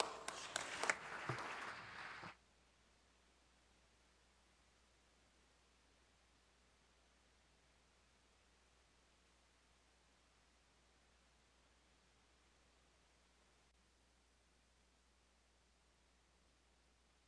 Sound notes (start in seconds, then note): 0.0 applause; 2.7 sound is cut during applause